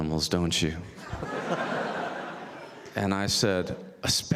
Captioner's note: audience laughs